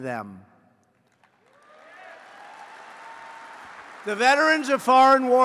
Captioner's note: applause